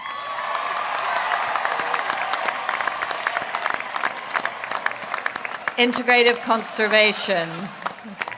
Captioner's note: applause